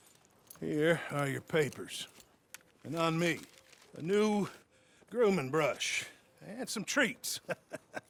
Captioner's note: laughs